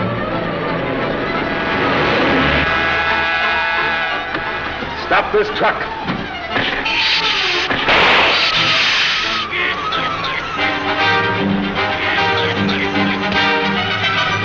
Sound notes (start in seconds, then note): 7.6 sizzling; 7.8 gun blasting; 11.8 tense music